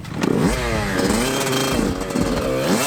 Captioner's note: bikes starting up